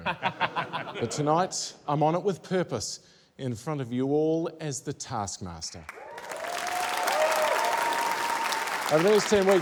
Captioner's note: laughter; cheering, applause